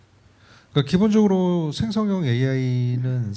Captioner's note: speaking korean